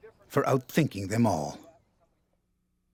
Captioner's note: voiceover